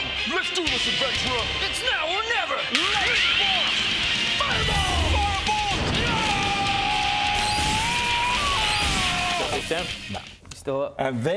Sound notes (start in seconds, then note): 4.4 cool anime noises